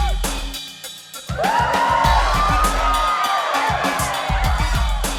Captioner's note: audience cheers